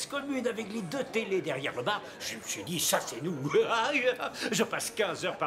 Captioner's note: laughs